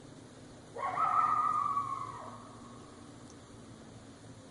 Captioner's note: animal howling